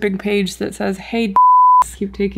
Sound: beep

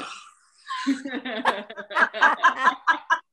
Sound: laughs

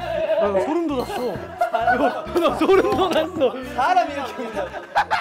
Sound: laughter #1 gives them goosebumps

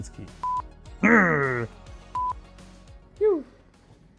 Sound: growls

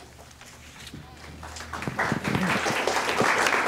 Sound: applause

